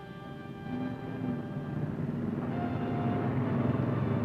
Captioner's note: engines rumbling